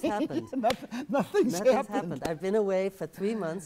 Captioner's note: laughing